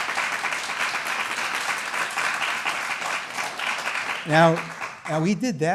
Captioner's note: applause